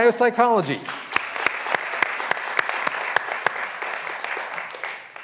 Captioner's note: graduands applauding